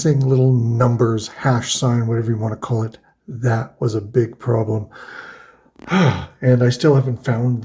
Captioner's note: sighs